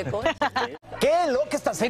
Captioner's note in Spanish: risas